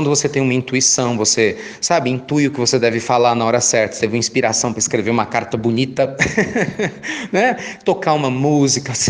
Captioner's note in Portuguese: risos